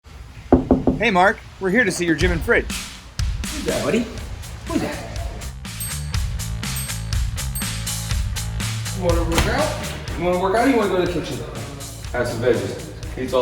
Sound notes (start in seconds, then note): 0.5 hand knocking; 3.1 upbeat music